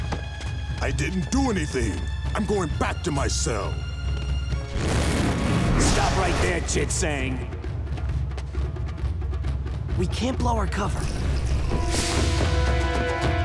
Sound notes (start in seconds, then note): none